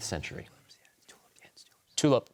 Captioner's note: whispers